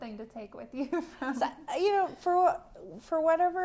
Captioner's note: laughter